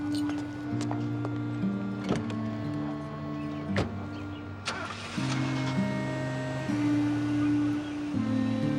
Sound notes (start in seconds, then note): 2.8 engine starting; 3.7 car door closing